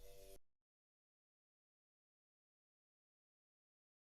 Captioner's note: silence